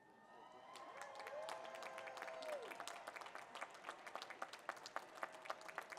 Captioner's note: applause